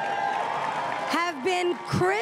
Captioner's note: crowd cheering and applauding